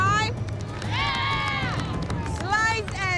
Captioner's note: cheering